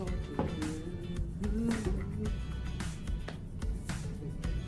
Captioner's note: humming